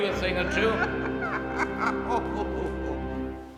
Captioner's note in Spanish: riendo